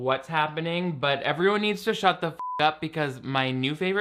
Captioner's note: beep